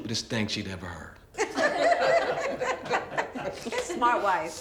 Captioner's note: crowd laughing